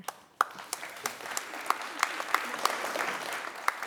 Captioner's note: crowd applauding